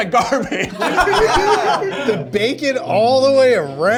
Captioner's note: all laugh